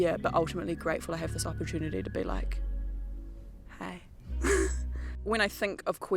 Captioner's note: laughs